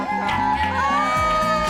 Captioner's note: cheering